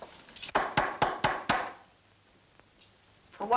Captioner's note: tapping